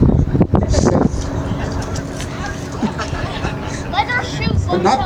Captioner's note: laughter